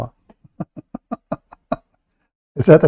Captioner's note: Ketawa